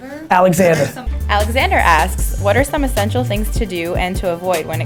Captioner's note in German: Voice-over